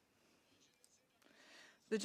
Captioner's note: speaking French